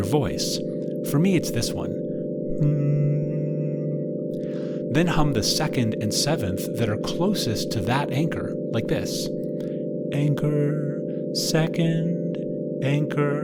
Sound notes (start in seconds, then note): 2.6 hum